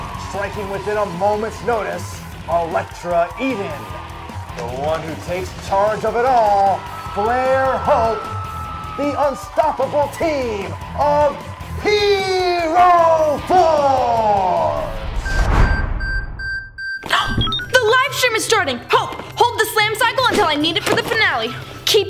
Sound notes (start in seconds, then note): 15.5 wristwatch ticking; 17.2 exclaiming